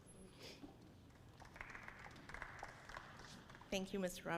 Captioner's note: audience applauds